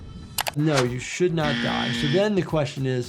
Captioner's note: mouse clicks